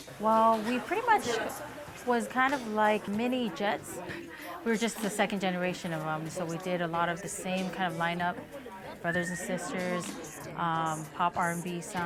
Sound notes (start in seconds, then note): none